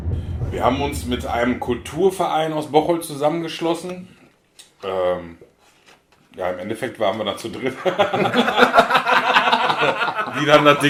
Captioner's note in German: lachen